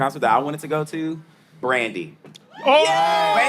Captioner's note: exclaiming